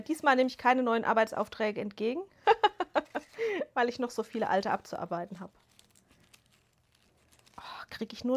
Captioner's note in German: gelächter